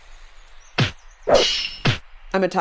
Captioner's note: blows landing